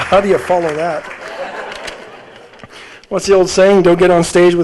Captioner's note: audience laughing